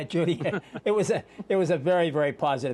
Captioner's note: laughter